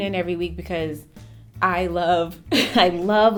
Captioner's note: chuckles